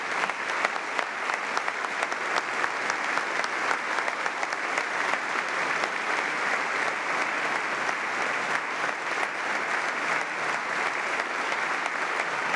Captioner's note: applause